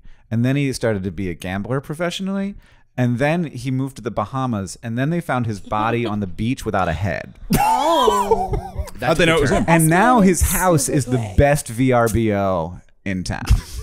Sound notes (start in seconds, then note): 7.3 a collection of shocked noises